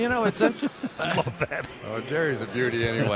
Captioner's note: laughs